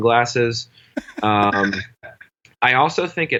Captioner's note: laughs